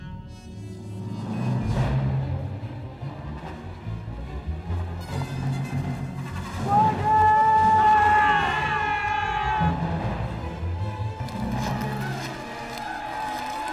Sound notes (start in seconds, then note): 1.3 intense music; 6.6 yelling